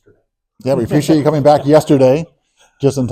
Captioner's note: laughs